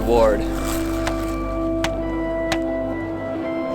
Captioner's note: kicking skis